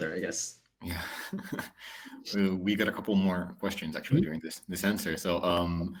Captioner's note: chuckles